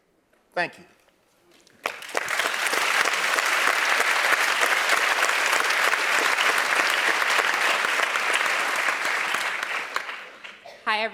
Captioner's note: applause